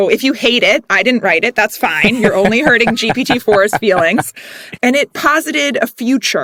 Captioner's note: laugh